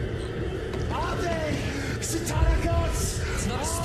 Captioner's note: kyle che parla latino